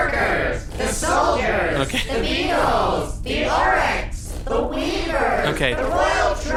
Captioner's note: laughing slightly